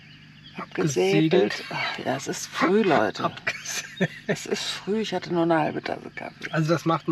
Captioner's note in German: gelächter